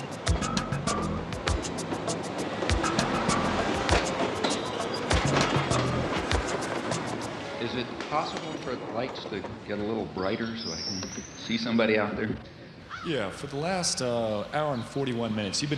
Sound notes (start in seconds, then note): 0.0 lively music; 4.2 train rumbling